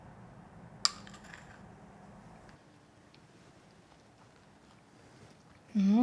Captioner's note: spoon tapping on bowl